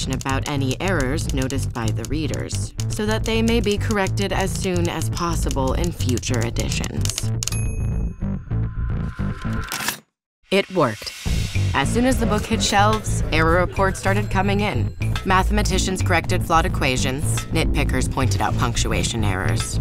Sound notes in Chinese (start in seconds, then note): 9.5 撕紙聲; 11.1 輕快的音樂